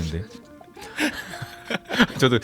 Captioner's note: laugh